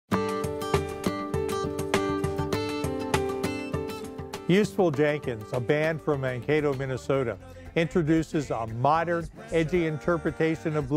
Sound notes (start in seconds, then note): 0.6 theme music; 4.5 voiceover